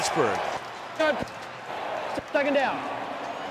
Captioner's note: referee call